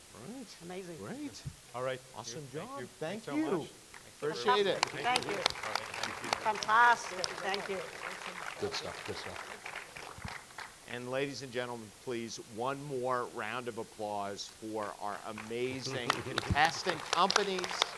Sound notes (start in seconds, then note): 5.0 audience clapping